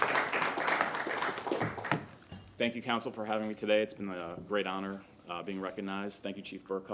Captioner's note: applause